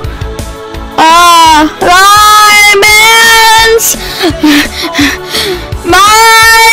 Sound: HEAVY breathing

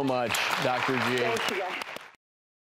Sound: audience clapping

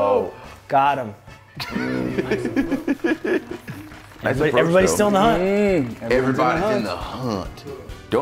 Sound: laugh

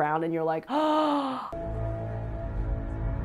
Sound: gasps; suspenseful music

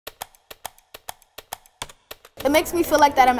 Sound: rhythmic clicking

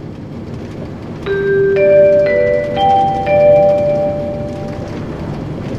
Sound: chime

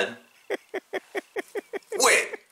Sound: laughing

